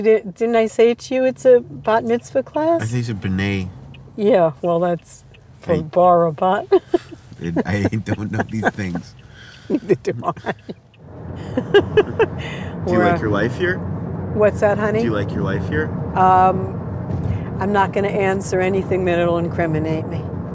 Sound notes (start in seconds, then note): 6.5 giggling; 6.5 laughing; 11.8 laughing